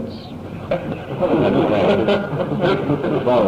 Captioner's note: laughter